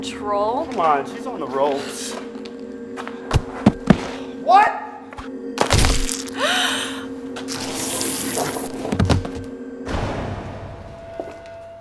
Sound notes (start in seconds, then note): 5.6 crunch, squish; 6.3 gasp